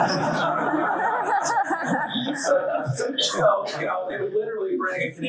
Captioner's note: students laugh